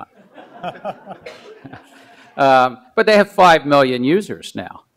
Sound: laughs

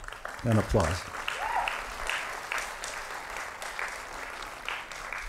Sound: applause

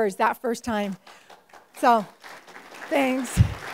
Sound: applause

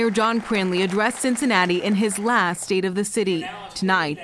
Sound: applause

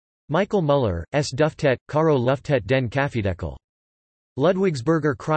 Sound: German

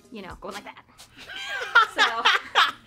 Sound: laughing

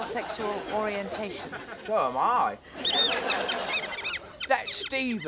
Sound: squeaking

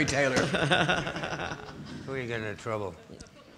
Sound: laughing

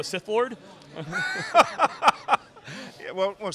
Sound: laughing

